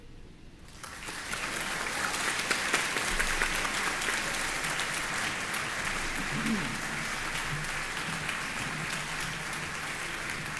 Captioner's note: applause